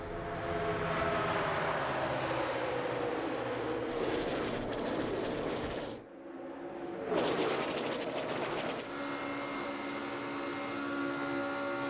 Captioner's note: engines roar